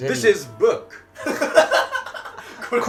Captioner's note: laughing